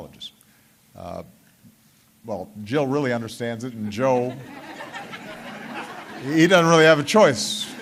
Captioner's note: laughter